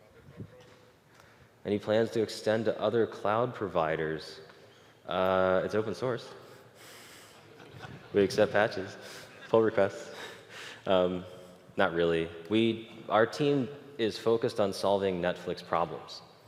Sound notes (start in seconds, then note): 7.3 웃음; 7.4 청중 웃음